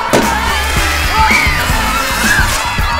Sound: screaming

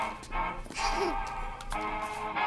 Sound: judith giggles

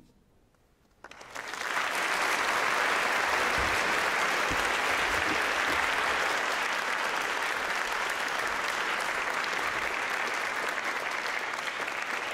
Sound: applause

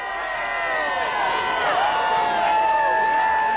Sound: fans cheering

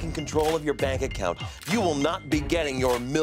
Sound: scoffs

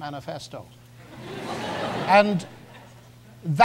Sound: audience laughs

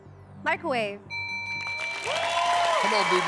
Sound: bell rings

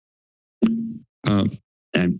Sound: mic thumps

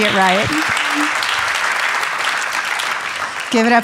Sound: audience applauding

